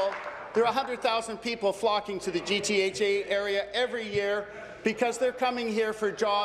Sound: applause

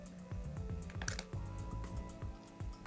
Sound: chips clattering

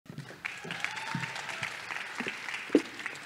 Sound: applause

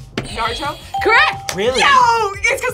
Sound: buzzer rings; bell rings

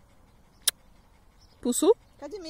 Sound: mwah

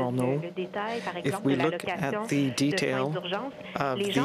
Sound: speaking french

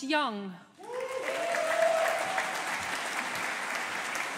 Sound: audience applauding

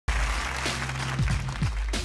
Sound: applause

